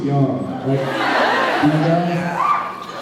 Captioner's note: sounds of agreement; cheers